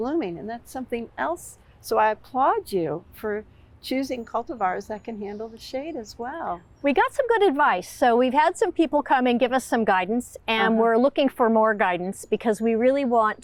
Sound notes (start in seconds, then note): none